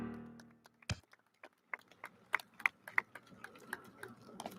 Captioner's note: audience applauds